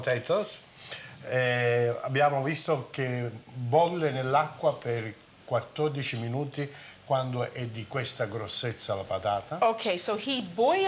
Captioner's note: speaking Italian